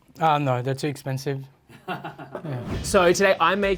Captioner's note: laughs